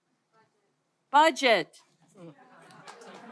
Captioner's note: audience laughter